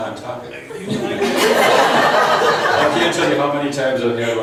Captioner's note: laughs